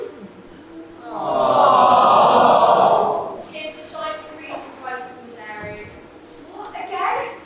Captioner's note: audience awwws